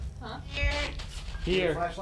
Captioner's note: spirit box voice